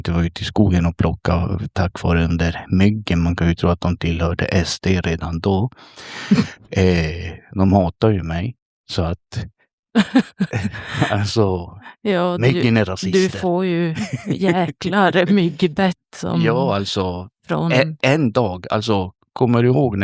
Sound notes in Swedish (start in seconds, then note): 9.9 skratt